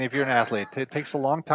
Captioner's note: laughing